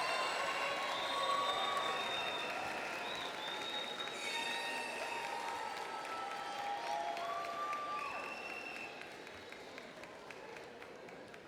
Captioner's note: applause